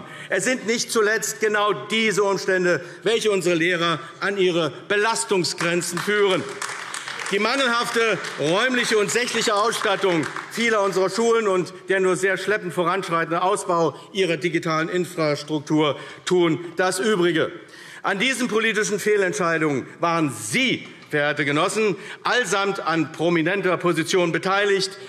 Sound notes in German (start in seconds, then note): 5.5 Beifall AfD